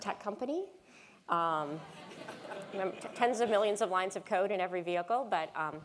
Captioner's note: laugh